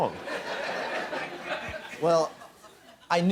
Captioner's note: laughter